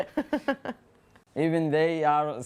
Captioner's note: laughter